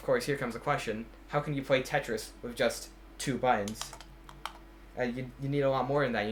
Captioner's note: clicks buttons